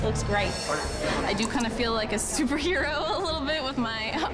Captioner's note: chuckles